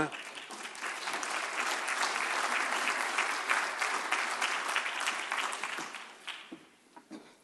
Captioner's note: applause